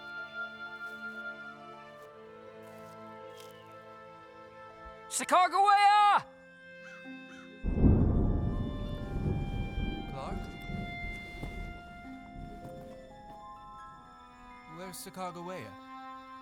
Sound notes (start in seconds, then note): 7.6 thunder rumbles